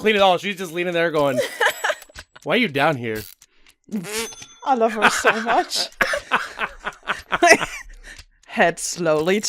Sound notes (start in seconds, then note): 4.9 laughter; 7.4 laughs